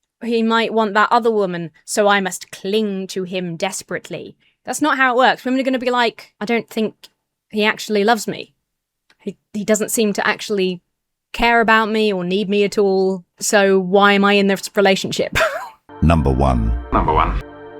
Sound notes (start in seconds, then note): 15.3 chuckles; 16.1 AI Voice